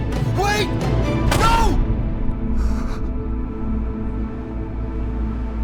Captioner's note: gunfire popping